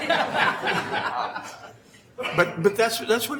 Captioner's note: laughing